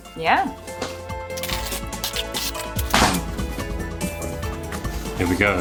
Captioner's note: playful electronic music; packaging crackling